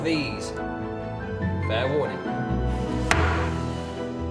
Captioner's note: gavel bangs